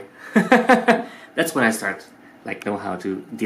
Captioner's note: laughing